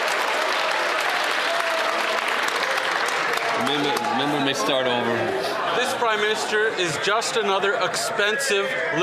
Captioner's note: some Applause